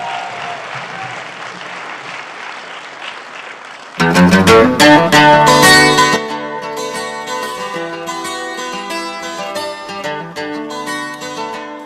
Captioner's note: applause